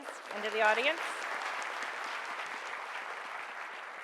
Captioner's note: clapping